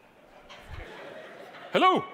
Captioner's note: audience laughing